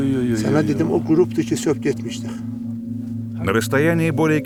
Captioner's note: talk on Persian language